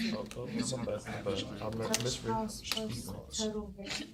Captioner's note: students murmur